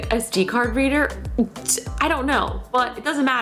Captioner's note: scoffs